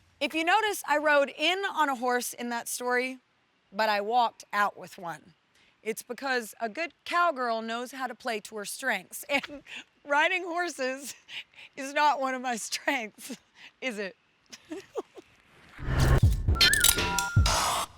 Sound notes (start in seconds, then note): 9.3 laughs; 14.5 giggles